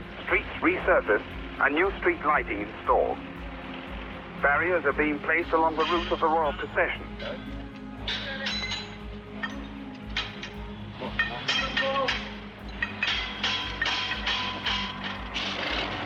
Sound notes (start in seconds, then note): 8.4 metal clanking; 8.4 workers chattering